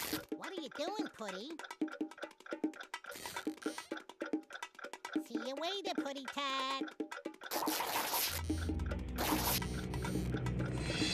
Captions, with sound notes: WHAT ARE YOU DOING, PUSSY? [clock ticking] SEE YOU LATER, PUSSYCAT.